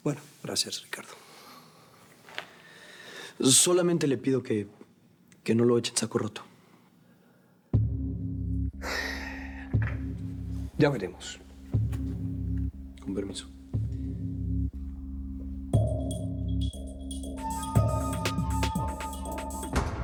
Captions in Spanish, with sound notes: >> BUENO, GRACIAS, RICARDO. >> SOLO LE PIDO QUE NO LO ECHE EN SACO ROTO. [EXHALA] >> YA VEREMOS. >> CON PERMISO.